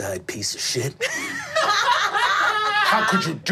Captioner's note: group laughing